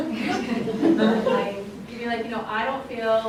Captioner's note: laughs